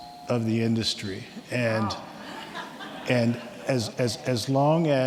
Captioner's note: audience members laugh